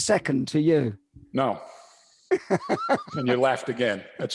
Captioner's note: laughs